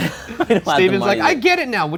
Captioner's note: laughs